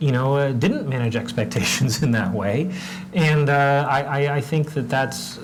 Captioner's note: laugh